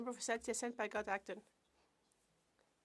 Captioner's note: speaking French